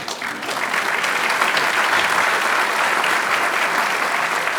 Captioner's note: applause